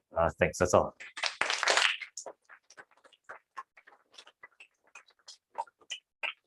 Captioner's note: applause